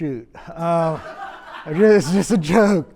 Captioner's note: audience laughs